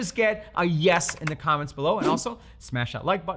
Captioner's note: keyboard clacking